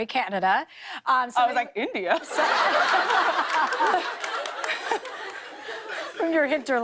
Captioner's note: laughter